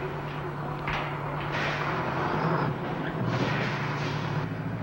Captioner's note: truck whizzes